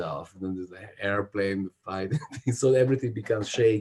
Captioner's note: chuckles